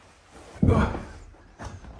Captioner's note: fat guy noises